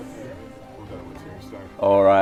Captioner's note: laughing